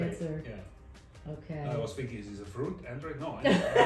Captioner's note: laughs